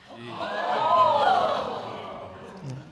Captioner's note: audience exclaiming